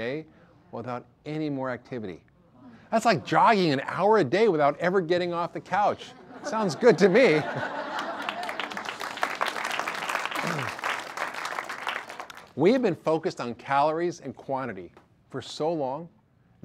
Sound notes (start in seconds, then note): 7.5 audience applause